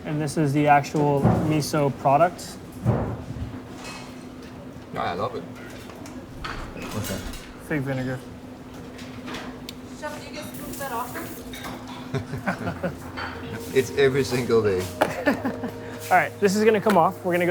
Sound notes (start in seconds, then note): 11.6 chuckling; 14.8 laughs